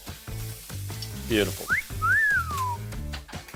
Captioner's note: whistling